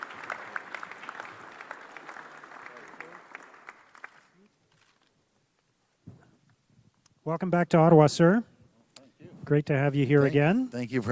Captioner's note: applause